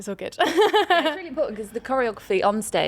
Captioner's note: laughs